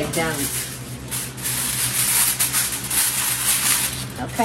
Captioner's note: tinfoil rustling